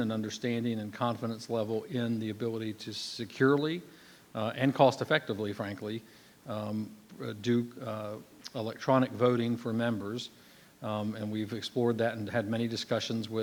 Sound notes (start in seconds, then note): none